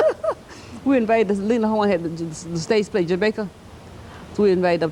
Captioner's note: laughter